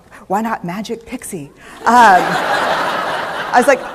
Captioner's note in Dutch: Gelach